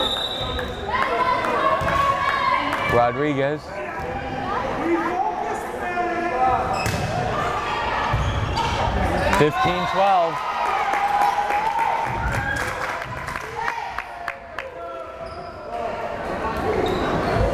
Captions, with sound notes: (whistle blares) Rodriguez! 15-12! (crowd cheering)